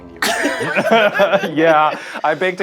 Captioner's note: all laughing